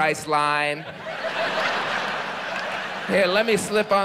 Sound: audience laughs

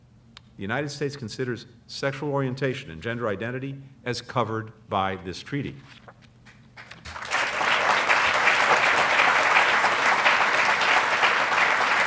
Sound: applause

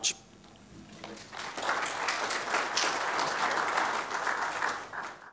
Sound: applause

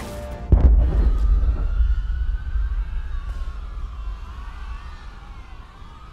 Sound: explosion and screaming

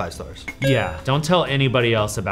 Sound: tone chimes

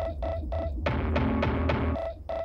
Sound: <i> drumming</i>; <i> hollow thumping</i>

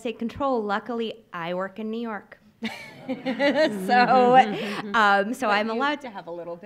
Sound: laughs

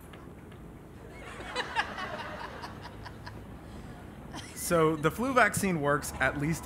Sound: laugh

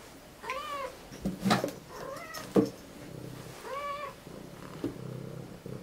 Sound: cats purring/meowing

